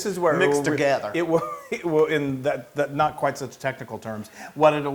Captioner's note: laugh